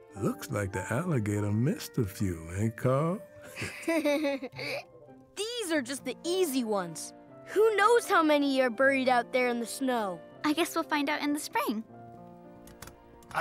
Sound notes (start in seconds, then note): 3.4 chuckles